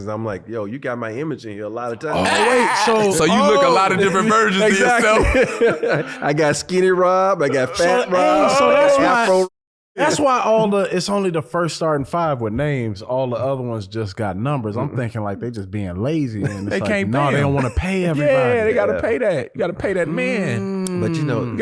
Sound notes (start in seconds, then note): 5.4 laughing